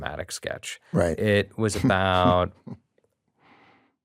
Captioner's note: chuckles